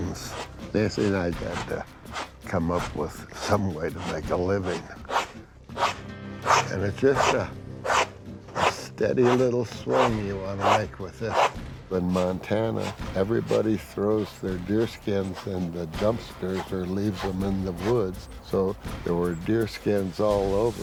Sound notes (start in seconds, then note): 4.8 rasping